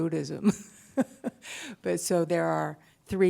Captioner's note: laughter